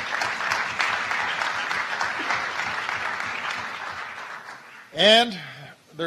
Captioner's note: applause